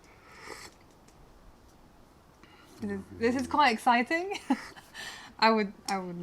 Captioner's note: laughter